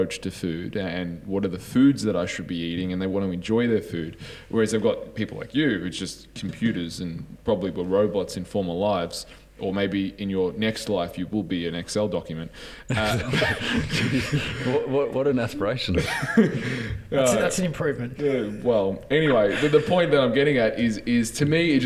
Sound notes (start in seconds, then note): 12.9 giggles